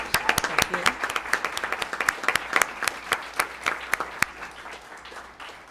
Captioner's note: applause